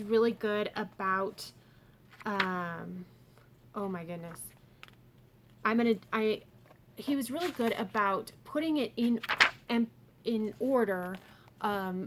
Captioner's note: flips through pages